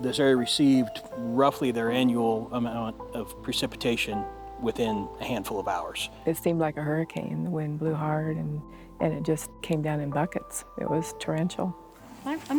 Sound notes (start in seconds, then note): none